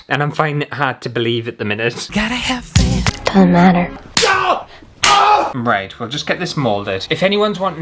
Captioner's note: slap!